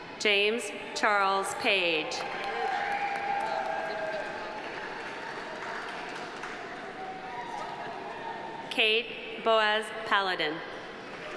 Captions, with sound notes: James Charles Page. (audience applauding) (audience cheering) Kate Boas Paladin.